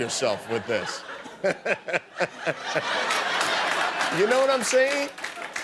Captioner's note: laughter